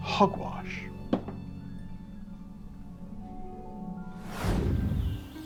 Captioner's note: finger taps ghost